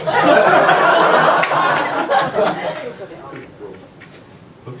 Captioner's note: audience laughs